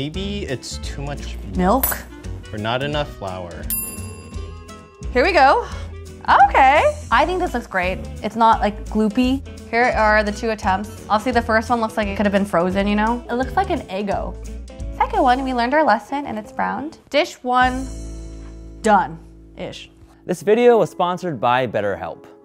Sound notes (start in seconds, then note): 3.7 bell rings